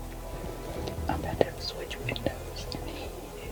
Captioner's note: whispering